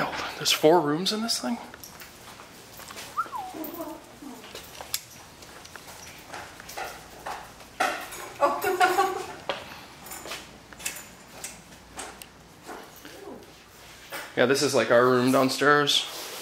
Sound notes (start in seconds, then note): 3.1 whistles; 8.4 laughter